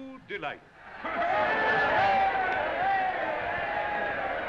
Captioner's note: crowd cheering